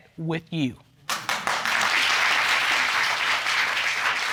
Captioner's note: audience applauding